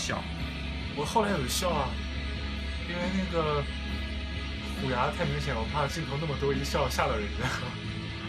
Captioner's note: laughs